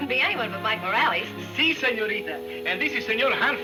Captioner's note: speaking in foreign language